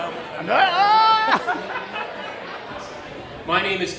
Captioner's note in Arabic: جيلبرت يصرخ